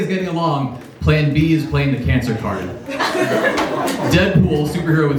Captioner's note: laughs